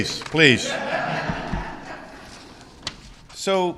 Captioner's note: laughter